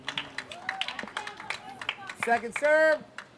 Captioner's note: applause